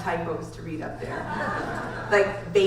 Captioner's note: audience laughs